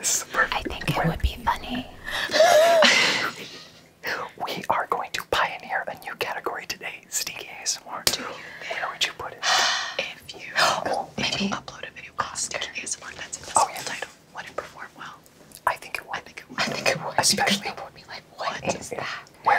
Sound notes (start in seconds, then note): 2.2 everyone laughs